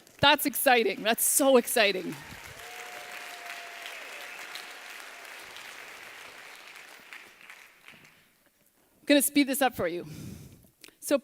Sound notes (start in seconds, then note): 2.3 applause